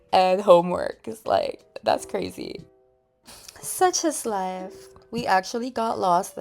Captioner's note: sigh